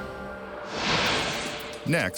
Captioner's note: light beam swishing